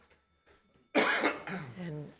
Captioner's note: member coughs